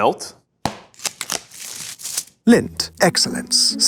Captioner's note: wrapper tears